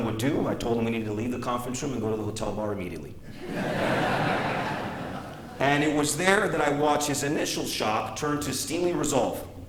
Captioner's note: laughter